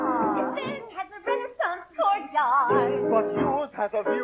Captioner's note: agitated